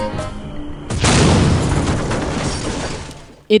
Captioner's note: kaboom!!